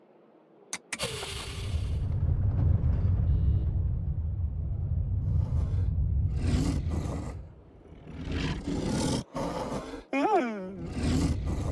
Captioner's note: roar